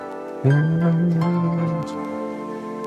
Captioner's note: humming